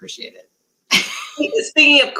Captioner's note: laughter